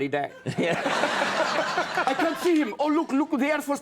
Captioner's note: audience laughs